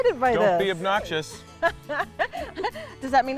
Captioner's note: laughs